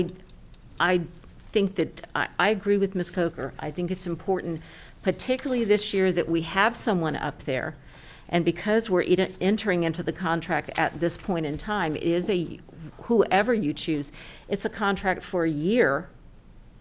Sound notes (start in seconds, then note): none